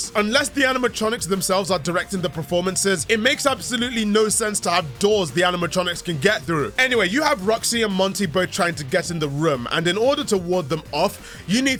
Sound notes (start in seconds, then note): none